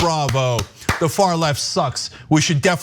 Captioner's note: applause